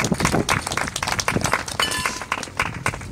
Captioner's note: applause